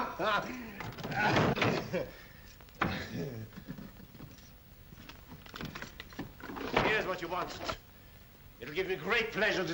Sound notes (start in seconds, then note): 0.0 laughs loudly; 0.8 desk clatters open